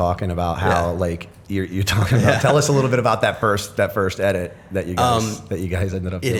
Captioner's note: chuckle